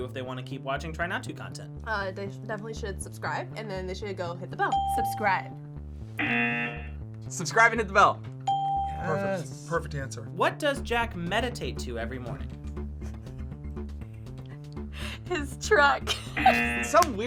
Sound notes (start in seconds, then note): 6.2 buzzer rings; 8.5 bell rings; 16.0 laughs; 16.3 buzzer rings